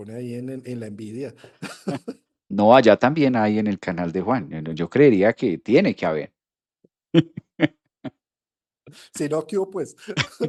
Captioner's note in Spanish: risas; risas